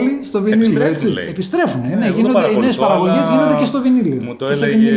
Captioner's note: laughs